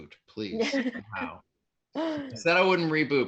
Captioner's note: laughing